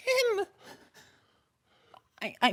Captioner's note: heavy breathing